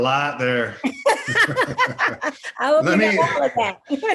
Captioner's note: panelists laughing